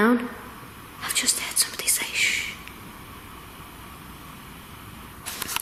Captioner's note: whispering